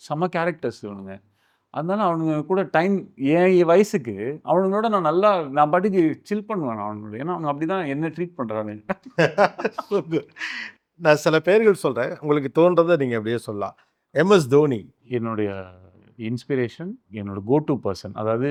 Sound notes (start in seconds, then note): 8.9 laughs